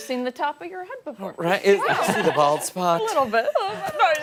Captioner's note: laughter